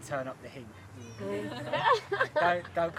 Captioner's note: laughter